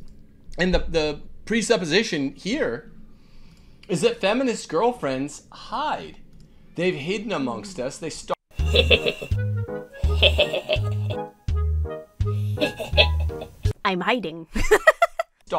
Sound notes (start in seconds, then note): 8.5 whimsical music; 8.6 chuckles deviously; 12.4 laughs